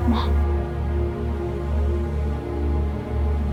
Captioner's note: phone continues vibrating